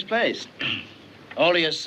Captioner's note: clears throat